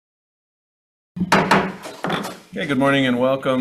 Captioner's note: loud thump